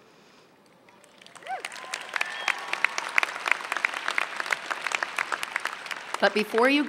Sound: applause and Cheers

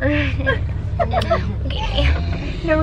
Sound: laughter

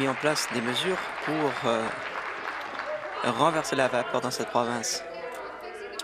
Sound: applause

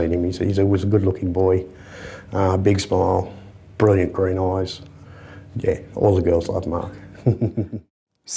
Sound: laughs

